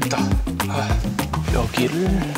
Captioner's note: sighs